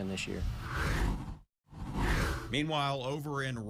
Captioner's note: air whooshes